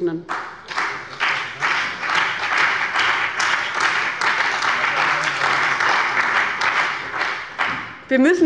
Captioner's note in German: Beifall bei dem BÜNDNIS 90/DIE GRÜNEN und der CDU